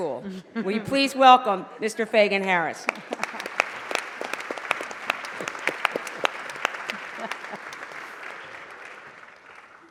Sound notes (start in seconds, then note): 4.5 applause